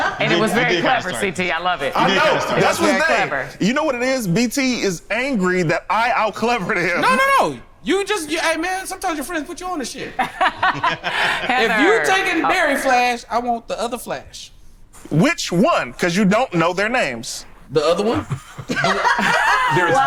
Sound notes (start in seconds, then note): 10.1 laughs; 17.9 group laughs